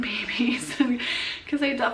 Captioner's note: laughs